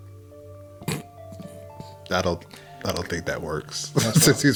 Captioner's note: chuckles